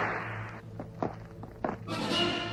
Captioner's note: whip cracks; footsteps tapping; orchestral music continues